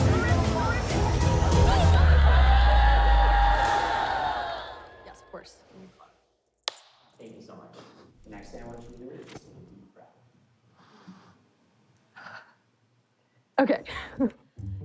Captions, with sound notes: Don't rip it. Don't rip it. (cheer triumphantly) (claps loudly) (takes shaky breath) Okay.